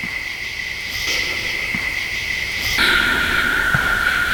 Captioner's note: object whooshing